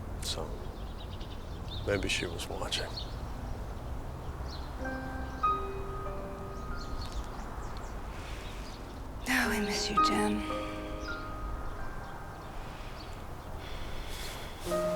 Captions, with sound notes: so maybe she was watching. (somber music) - (sighs) Oh, I miss you, Jen.